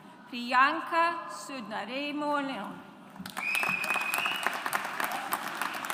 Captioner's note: audience applauds